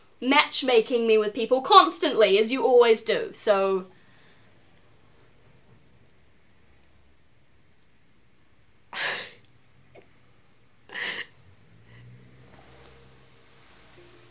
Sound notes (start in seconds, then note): 8.9 Hero laughs on a breath